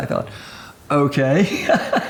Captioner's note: laughs